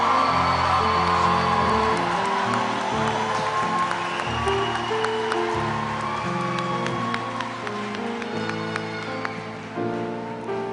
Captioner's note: cheers and applause